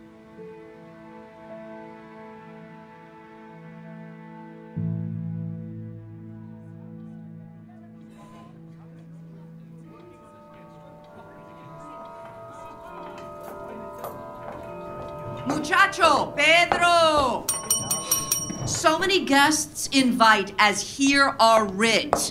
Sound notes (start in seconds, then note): 0.3 soft music; 6.3 ambient chatter; 9.8 bell tolling; 17.4 call bell ringing